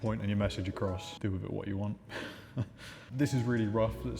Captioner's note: chuckling